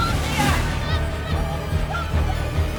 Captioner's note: more Shouting